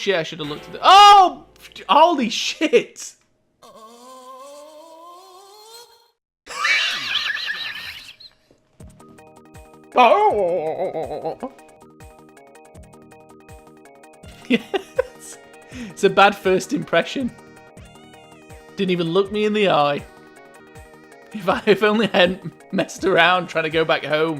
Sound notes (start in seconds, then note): 3.6 groans; 6.5 laughter; 9.7 mocking groans; 14.4 laughter